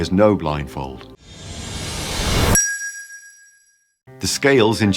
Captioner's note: whoosh sound